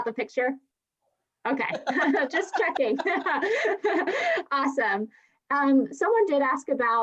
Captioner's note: laughs